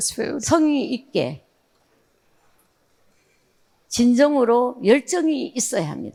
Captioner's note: speaking in foreign language